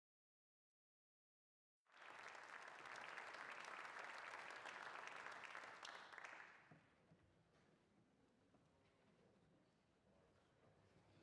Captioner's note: applause